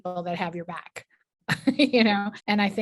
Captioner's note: chuckles